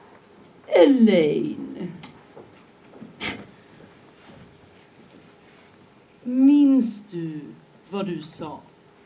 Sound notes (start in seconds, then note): 2.8 scoffs